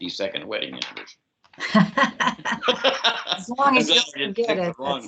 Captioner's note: laughs